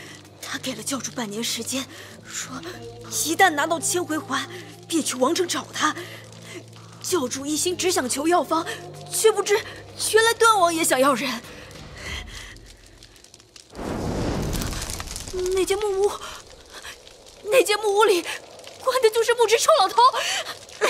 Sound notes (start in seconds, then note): 12.2 crackling of fire